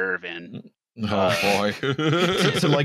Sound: laughter

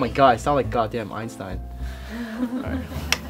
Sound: laughter

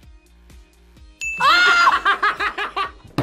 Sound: bell rings; laughs

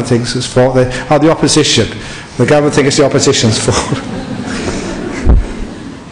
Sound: laughter

